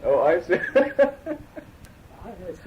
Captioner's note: laughter